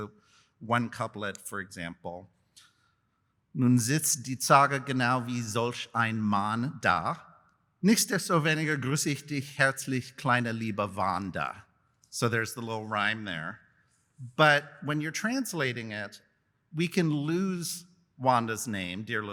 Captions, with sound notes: So, one couplet, for example. [NON-ENGLISH SPEECH] So there's the little rhyme there. But when you're translating it, we can lose Wanda's name--